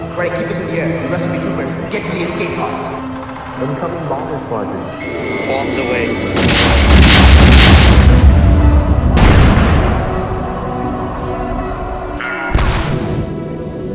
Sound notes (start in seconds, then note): 9.2 screams of death